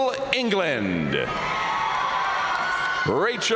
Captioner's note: audience cheering and applauding